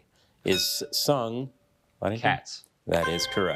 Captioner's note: bell dinging